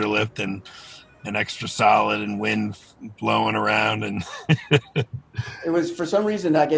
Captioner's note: laughs